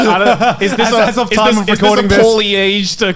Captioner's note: laughs